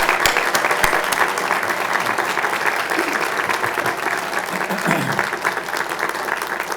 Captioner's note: applause